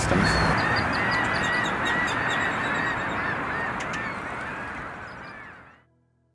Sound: natural sounds of ocean and seagulls

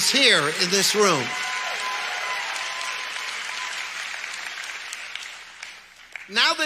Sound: audience applauds continuously

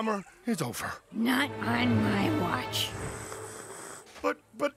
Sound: sips loudly

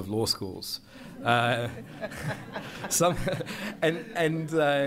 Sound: laughter

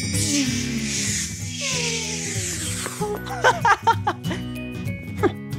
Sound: Marty imitates a rocket ship

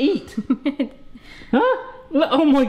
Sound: chuckling

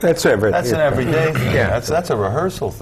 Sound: clears throat

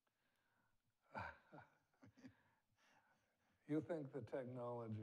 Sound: chuckles

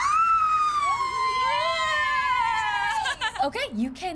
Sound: lots of screaming

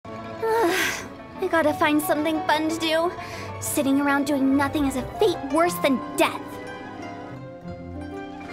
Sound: sigh

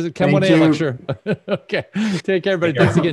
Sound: laughs

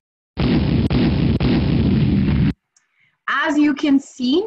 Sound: explosions

